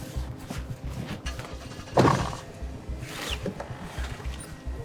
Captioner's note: engine starting